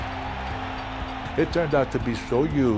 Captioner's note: bell ringing